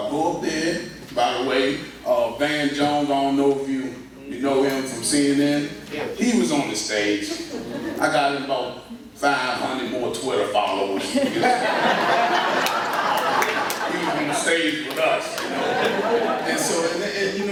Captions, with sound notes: So, I go up there... By the way, Van Jones... I don't know if you know him from CNN? He was on the stage. I got about 500 more Twitter followers because of that. (laughter) He was on the stage with us, you know.